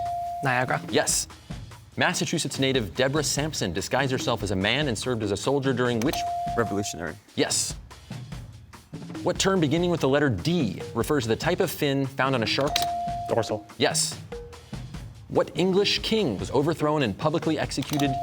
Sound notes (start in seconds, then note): none